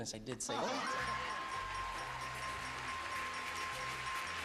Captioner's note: bell ringing